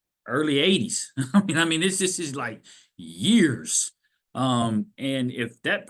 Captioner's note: laughs